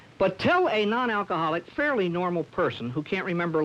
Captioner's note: none